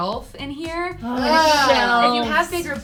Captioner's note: groan